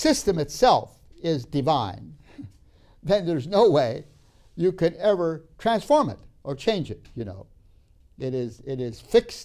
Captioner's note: laughs